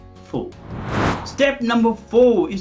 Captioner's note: air whooshing